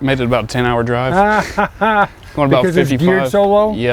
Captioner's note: laughs